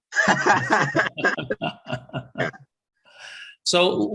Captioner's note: laughter